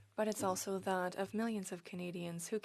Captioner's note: speaking French